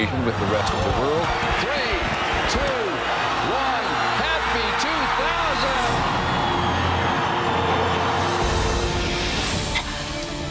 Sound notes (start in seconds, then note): 5.6 cheering